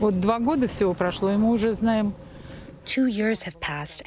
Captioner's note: through translator